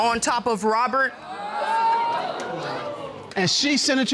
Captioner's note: audience exclaiming